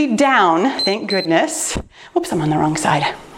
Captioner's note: timer beeps